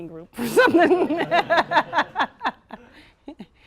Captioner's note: laughter